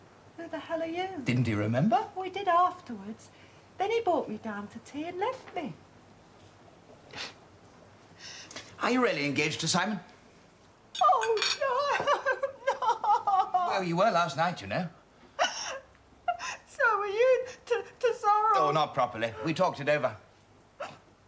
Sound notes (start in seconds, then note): 11.0 JACKIE, weeping